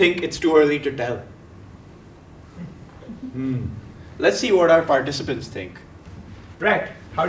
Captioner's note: laugh